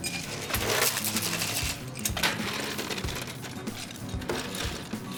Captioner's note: cocktail shaker rattling